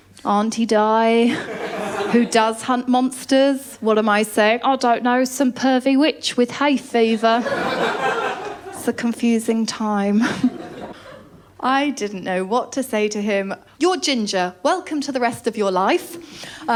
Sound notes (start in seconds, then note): 7.3 laughter